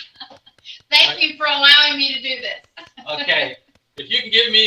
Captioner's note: clapping softly; laughing; laughing